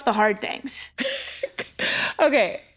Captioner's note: laughs